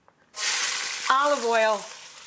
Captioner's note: pan sizzles